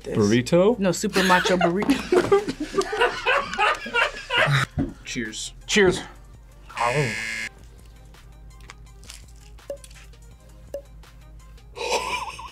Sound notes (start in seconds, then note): 1.1 man laughs; 1.2 laughs; 6.7 buzzer